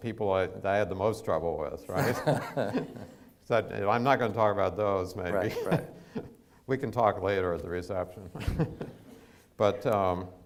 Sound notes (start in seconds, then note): 1.9 laughs